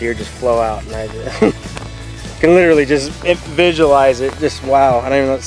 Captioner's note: chuckles